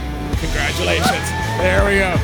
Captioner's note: all cheering